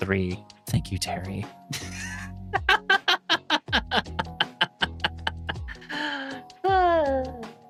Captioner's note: laughing